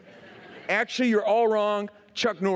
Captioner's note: laughter